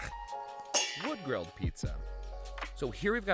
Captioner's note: metal clangs